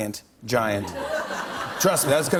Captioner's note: laughter